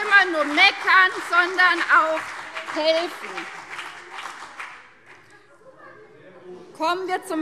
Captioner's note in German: Beifall CDU und BÜNDNIS 90/DIE GRÜNEN - Zurufe SPD